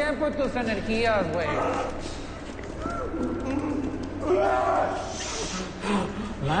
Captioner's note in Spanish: Gritos